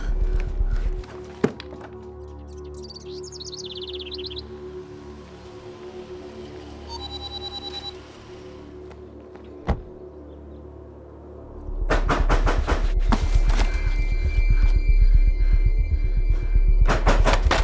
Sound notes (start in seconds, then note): 1.9 birds chirping; 6.4 motion alert beeping; 11.2 banging on door; 16.9 banging on door